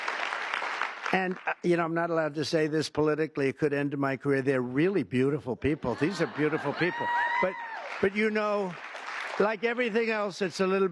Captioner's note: applause